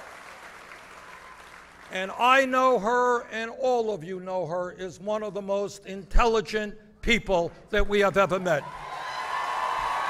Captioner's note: applause